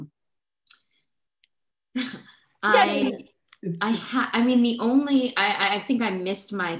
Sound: laughter

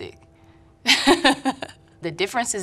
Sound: chuckles

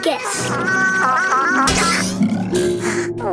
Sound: Baby Bot screaming

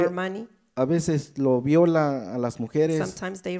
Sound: speaks in foreign language

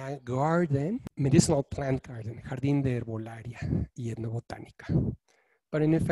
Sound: speaking in foreign language

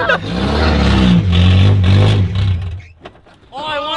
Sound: laughing; engine revving

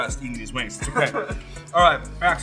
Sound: laughs

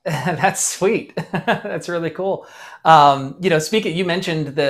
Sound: chuckles

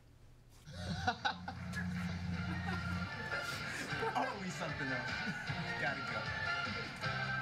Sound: laughs

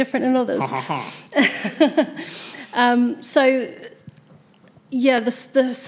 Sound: laughs

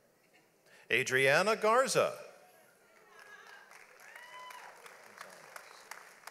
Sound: audience applauds

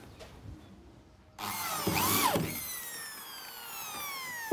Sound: whirring of the drill

